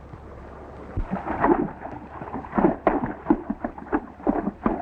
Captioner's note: water sloshing